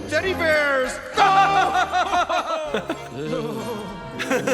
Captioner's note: they laugh and shiver mockingly